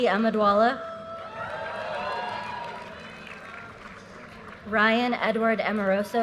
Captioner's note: audience cheers and applause